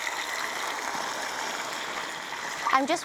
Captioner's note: bubbling